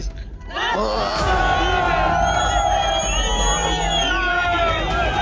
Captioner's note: people cheering